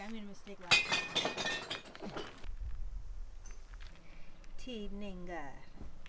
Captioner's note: glass clatters